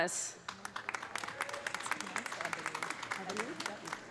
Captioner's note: audience applauding